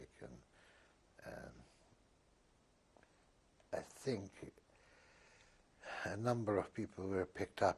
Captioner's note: pauses for 3 seconds